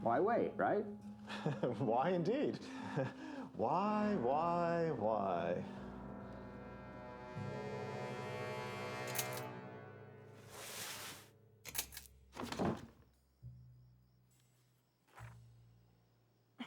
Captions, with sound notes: - Why wait, right? (laughing) - Why indeed? (chuckles) Why, why, why. (ominous music)